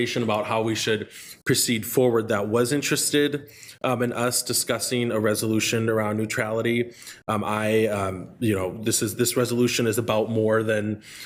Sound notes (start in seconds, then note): none